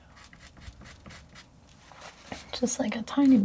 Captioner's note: scratching sounds